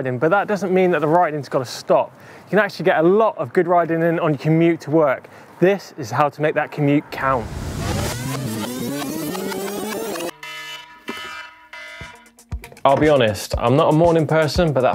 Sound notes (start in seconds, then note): 7.0 audio playing backwards; 9.9 alarm clock ringing